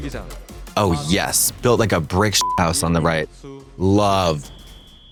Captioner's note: beep